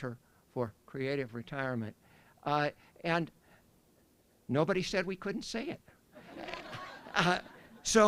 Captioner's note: laughter